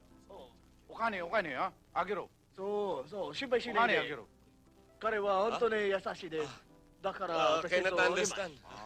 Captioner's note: japaneses Speaking